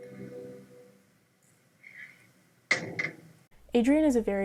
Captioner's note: door clattering